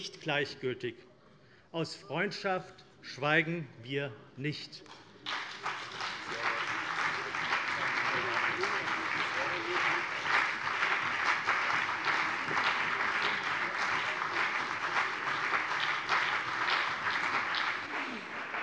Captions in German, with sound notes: gleichgültig. Aus Freundschaft schweigen wir nicht. [Beifall CDU, BÜNDNIS 90/DIE GRÜNEN, Freie Demokraten und vereinzelt SPD]